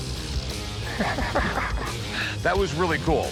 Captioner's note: chuckles